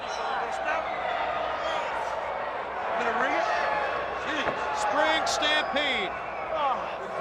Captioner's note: crowd chatter